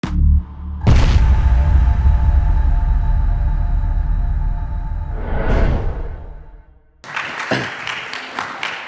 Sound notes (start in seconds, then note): 7.0 applause